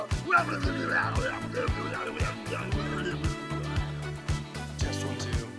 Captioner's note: vocalizing and babbling